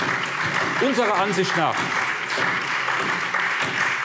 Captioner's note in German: Beifall SPD